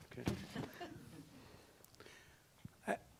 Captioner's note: laughs